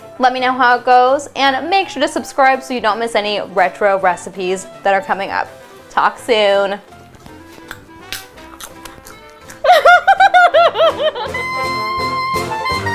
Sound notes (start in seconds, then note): 7.0 popcorn crunching; 9.6 giggles